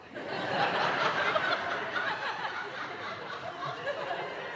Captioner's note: audience laughing